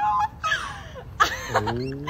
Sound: laughing

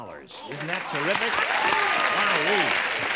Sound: applause

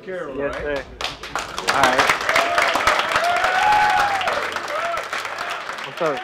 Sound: group applauding

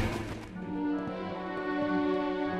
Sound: smack

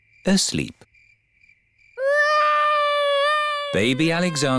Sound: baby alexander crying

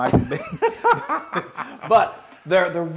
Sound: laugh

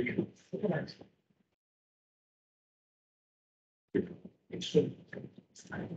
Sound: speaking faintly

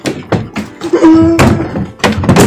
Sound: crying

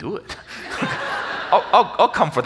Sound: audience laughs

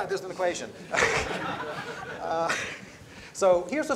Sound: laughter

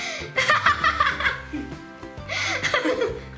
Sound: laughs

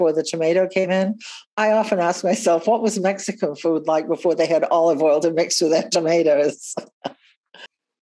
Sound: chuckles

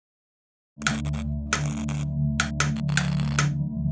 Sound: light switch clicks and light buzzes on and off

